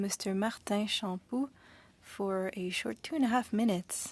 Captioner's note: speaking French